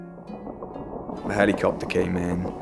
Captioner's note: helicopter blades whirling